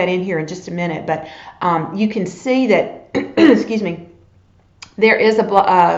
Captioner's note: coughs